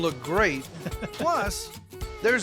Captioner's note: chuckling